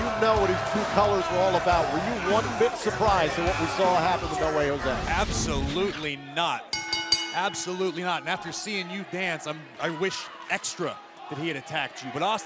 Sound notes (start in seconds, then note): 6.7 bell ringing